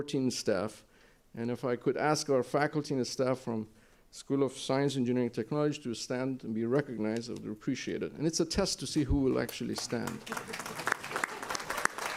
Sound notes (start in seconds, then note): 9.6 applause